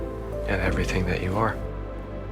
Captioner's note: voiceover